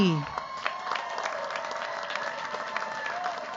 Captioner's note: cheers, applause